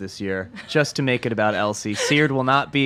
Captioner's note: laughs